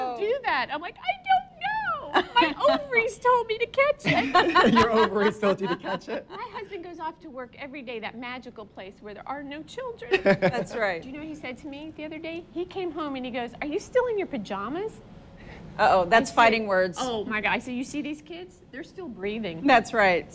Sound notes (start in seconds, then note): 4.0 laughs; 10.1 laughs